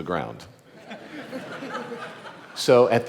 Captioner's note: audience laughing